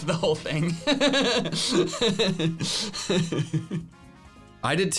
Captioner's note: laughs